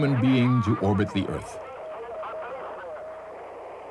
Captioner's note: radio transmission